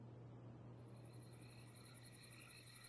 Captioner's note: crickets singing